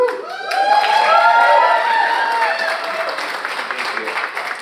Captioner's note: audience cheering; audience applauding